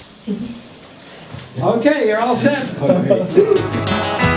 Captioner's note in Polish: śmiechy